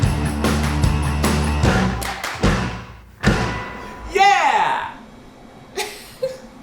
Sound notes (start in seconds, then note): 5.8 laughing